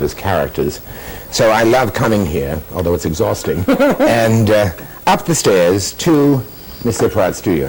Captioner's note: laughter